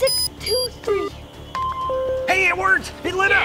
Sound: beeping

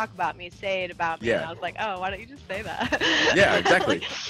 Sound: laugh

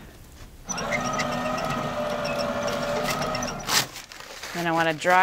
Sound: towel dispenser whirring

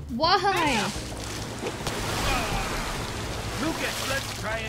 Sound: splashing

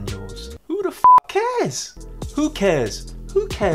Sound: beep

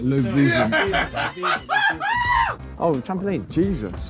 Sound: cheering

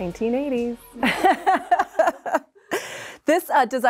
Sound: laughs

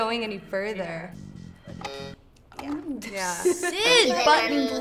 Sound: buzzer sounding

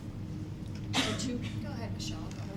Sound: coughing

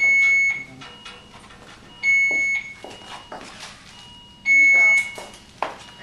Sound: machines beeping

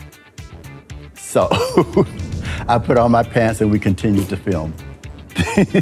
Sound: laughs; laughing

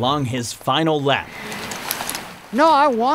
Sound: shuffling

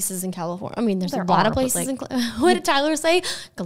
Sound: laughing

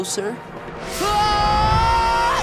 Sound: screaming

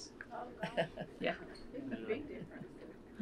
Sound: laughter

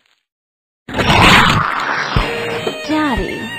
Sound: the Snake roars

